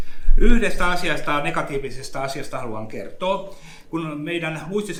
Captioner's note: speaks in Finnish language